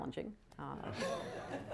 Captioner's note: laughter